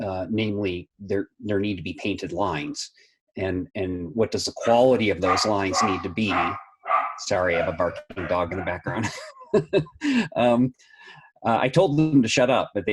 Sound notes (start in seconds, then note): 5.2 dog barking; 9.4 laughing